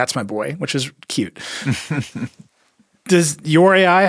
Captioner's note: chuckles